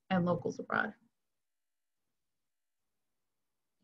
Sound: silence

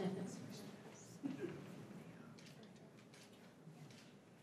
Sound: crowd chattering

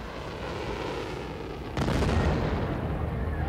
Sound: explosion

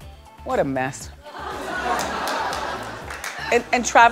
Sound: laughter

